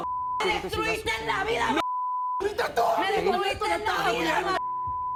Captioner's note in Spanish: Bip; Bip